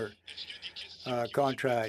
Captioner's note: speaking French